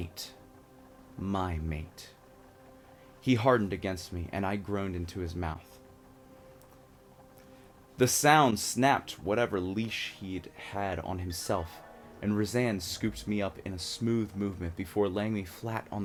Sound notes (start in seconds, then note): 5.7 taken aback breath; 11.3 dreamy sound effect